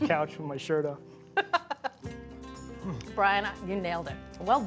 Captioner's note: Julia laughs